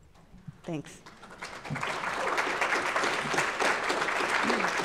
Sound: audience applauds

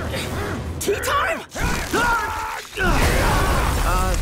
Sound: grunting

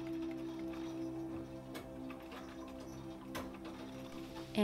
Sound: sound of sewing machine

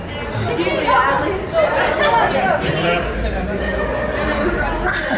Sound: laughing

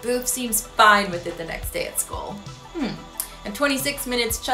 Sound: hums

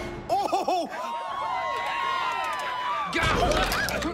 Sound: cheering

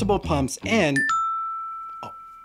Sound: alarm chiming

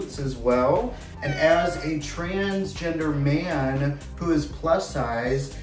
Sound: cat mewing

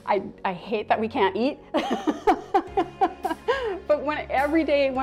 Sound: laughing

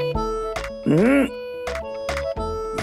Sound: grunting in disagreement

